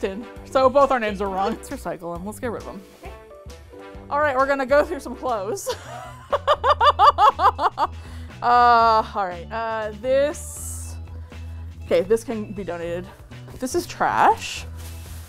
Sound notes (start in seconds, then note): 5.6 laughs